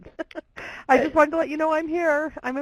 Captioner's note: laughter